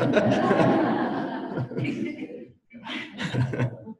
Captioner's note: audience laughs